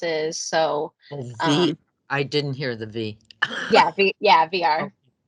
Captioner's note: laughs